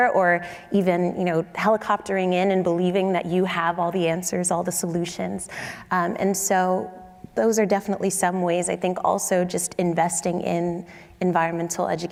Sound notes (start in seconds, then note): none